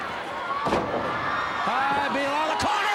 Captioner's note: Ric thudding on ring